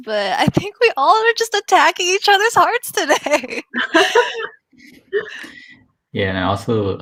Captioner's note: laughs